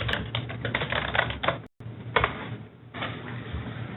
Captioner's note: typing